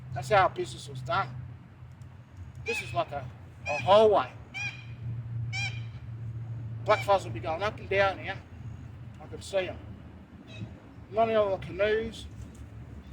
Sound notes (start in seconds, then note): 4.5 bird chirps